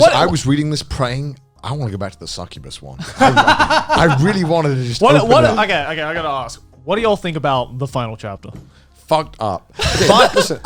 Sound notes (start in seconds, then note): 3.0 laughing